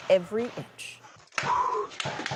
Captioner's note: gunfire